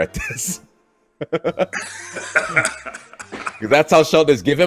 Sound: laugh

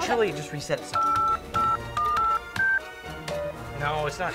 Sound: numbers dialing

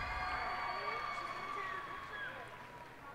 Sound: cheers and applause

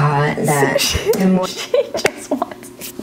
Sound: laughs

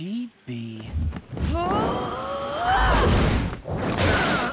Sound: grunting

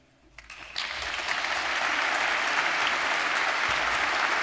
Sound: audience applauds

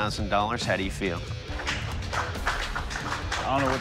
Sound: applause

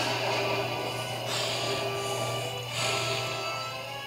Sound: growling

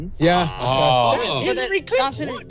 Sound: participants aah-ing

